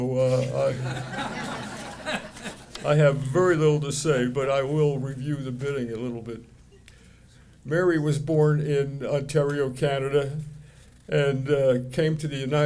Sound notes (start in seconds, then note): 0.4 audience laughing